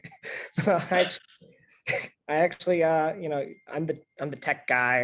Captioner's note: laugh